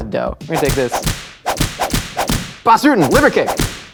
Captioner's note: whip cracking